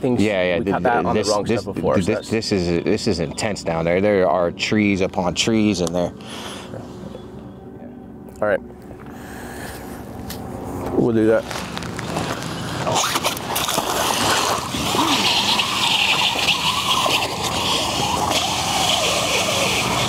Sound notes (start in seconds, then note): 13.4 water splashing; 16.1 rope whirring